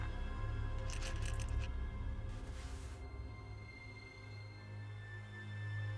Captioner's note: pills clattering; tense music